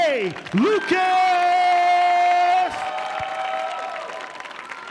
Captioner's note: audience applauding